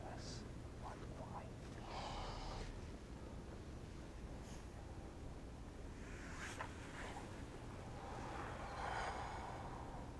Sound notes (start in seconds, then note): 5.9 clothes rustling